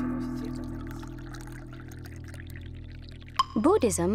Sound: tea pouring

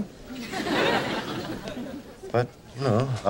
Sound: audience laughing

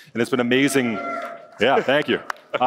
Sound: audience cheers

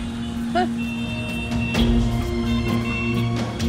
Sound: traffic noise

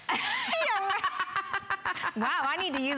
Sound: laughter

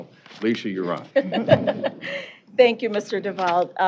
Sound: laughter

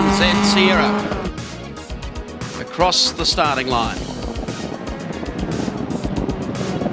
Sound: exhaust backfiring

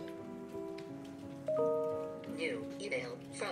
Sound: ping

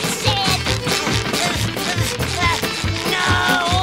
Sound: moaning

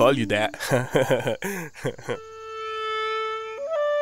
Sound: laughing

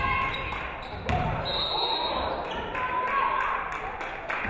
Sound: referee whistles

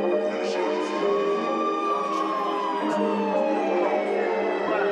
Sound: police sirens wailing

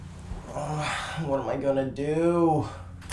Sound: groans

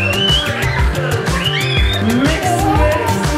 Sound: upbeat music; family laughs and yells

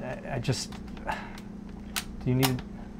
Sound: click sound; clicking sounds

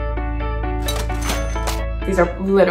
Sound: upbeat music; cash register ringing

